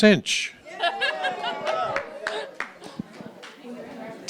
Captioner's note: laughter and light clapping